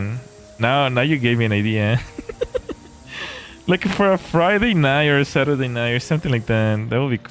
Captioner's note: laughter